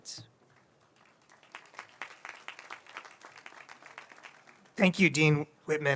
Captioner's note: audience applauds